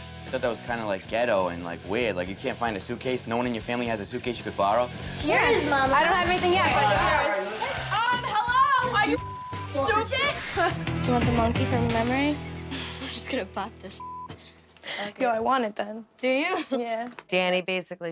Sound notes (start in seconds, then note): 8.1 yelling; 9.1 beep; 13.8 beep